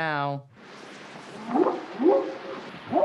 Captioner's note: whooping sound